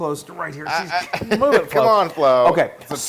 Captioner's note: laugh